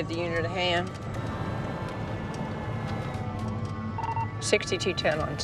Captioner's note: sirens